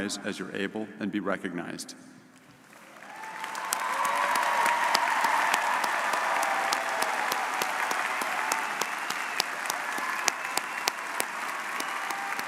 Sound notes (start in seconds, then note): 2.6 audience cheering and applauding